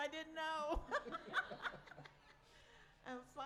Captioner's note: laughs